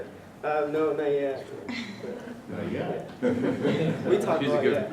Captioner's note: laugh